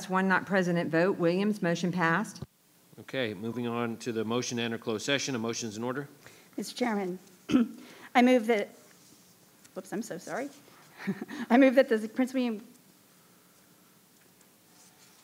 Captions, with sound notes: one not present at vote, Williams motion passed. - Okay, moving on to the motion enter closed session, motions in order. - Mr. Chairman, I move that... Whoops, I'm so sorry. (chuckles) I move that the Prince William...